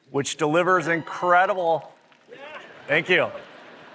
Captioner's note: applause